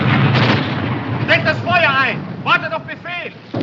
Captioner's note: soldier speaking in german